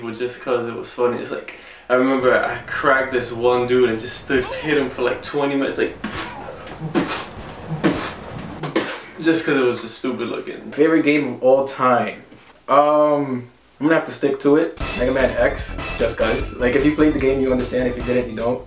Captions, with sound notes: just cause it was funny it was like... I remember I cracked this one dude and stood hitting him for like 20 minutes like *pfft pfft pfft pfft* just cause it was stupid looking My favorite game of all time um I gonna have to stick to it Megaman X, just cause like if you played the game you'll understand if you didn't you don't